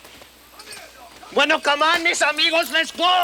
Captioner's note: Ignacio speaks Spanish; Bruto yells in Spanish